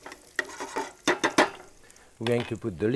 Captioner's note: utensil tapping